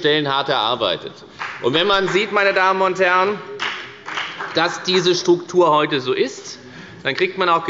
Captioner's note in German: Beifall bei der FDP